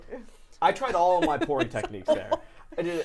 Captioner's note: laughing